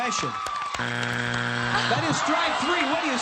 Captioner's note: buzzer